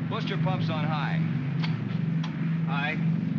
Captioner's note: switch clicks; aircraft rumbles